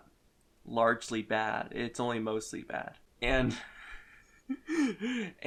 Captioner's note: laughs